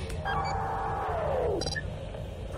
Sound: generator deactivates

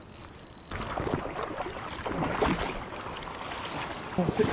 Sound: splashing

